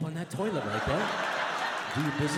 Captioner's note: audience laughs